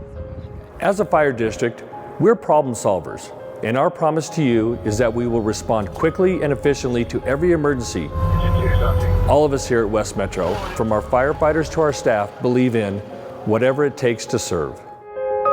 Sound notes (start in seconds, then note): 8.3 siren wailing; 15.3 gentle piano music